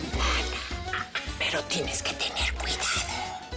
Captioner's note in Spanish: Ríe